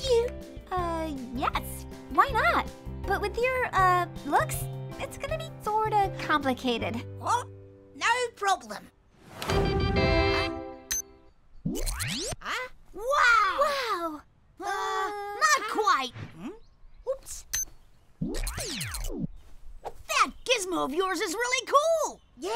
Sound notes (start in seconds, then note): 9.4 triumphant music; 10.8 device beeps; 18.3 device beeps